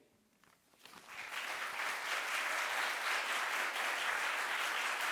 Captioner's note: audience applauds